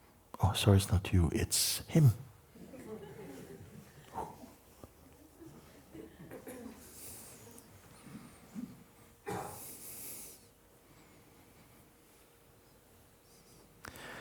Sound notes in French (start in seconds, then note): 5.2 rires